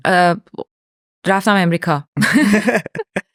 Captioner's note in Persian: خنده